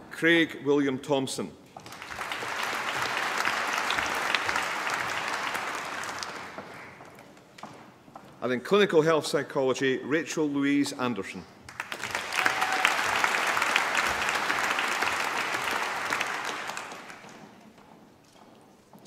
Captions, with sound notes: Craig William Thomson. (APPLAUSE) And in Clinical Health Psychology, Rachel Louise Anderson. (APPLAUSE)